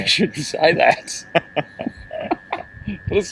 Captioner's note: laughing